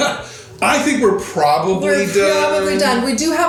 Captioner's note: chuckling